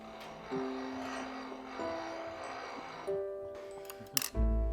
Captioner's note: crank whirring; gentle music